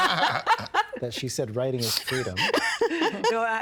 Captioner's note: all laughing